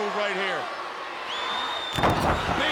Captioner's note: attendee whistling; body thudding